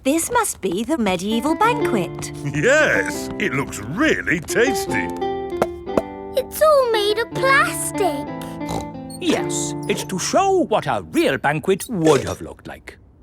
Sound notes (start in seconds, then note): 4.3 hollow taps; 8.4 snorts